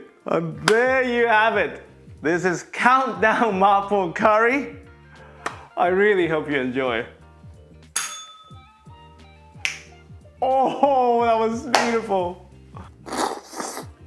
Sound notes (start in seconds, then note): 8.0 bell rings; 9.6 snaps fingers; 12.7 slups